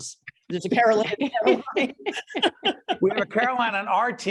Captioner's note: laughing